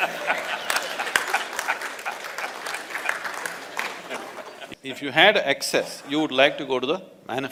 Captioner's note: laughter/Applause